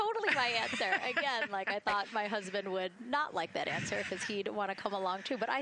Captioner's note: laughter